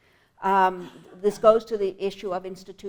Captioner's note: cough